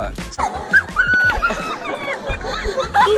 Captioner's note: laughter